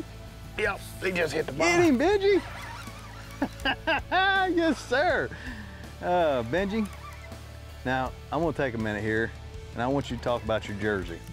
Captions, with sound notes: Get him, get him Benji! - He just hit the bottom. - Get him, Benji, (laughs) yes sir. Benji, now I want to take a minute here